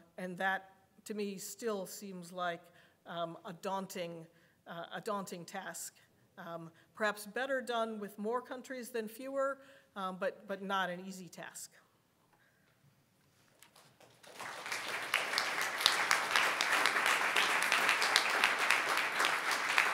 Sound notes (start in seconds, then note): 13.7 audience applauding